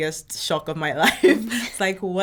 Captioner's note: laughing